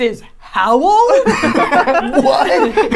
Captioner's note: laughing